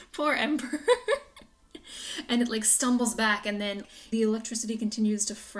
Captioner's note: giggles